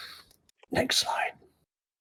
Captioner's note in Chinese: 小声